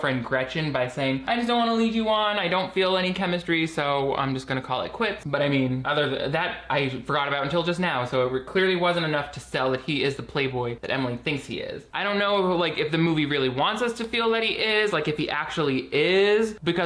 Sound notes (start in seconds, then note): none